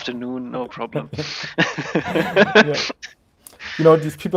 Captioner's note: both laughing